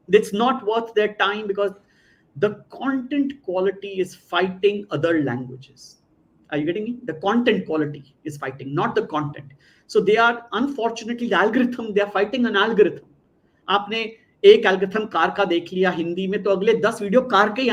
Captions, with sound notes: It's not worth their time because the content quality is fighting other languages. Are you getting me? The content quality is fighting, not the content. So they are-- unfortunately, the algorithm, they are fighting an algorithm. [NON-ENGLISH SPEECH]